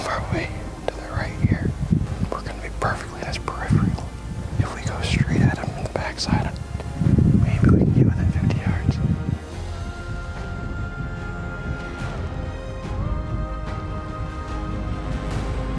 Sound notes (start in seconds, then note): 10.4 suspenseful music continues; 13.3 wind howling